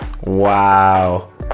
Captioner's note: heel taps